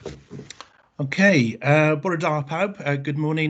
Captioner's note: speaking in Welsh